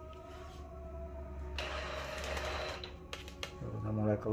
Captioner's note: printer machine sound